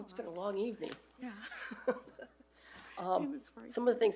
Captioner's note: both laughing